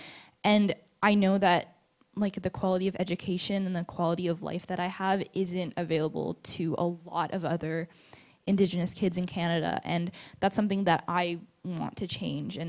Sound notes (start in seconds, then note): none